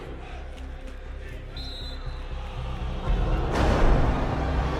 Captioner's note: whistle blows